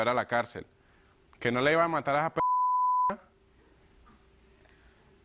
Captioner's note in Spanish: Bip